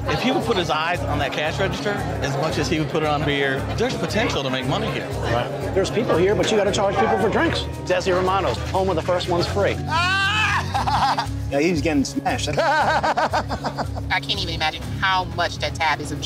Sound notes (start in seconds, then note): 10.0 owner laughing; 12.5 owner laughing